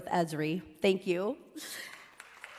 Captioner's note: applause